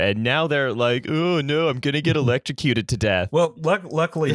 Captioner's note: nerd voice